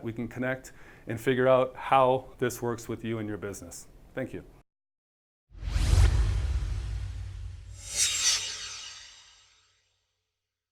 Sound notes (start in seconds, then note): 5.5 swoosh